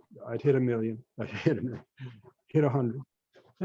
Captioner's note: chuckles